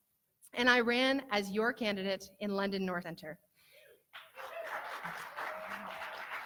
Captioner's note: cheering and clapping